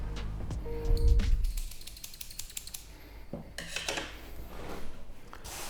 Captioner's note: scissors snipping